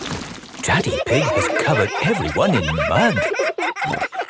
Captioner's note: all laughing